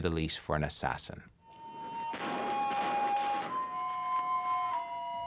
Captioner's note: gunshots on television